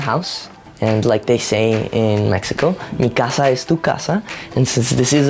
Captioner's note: speaking a foreign language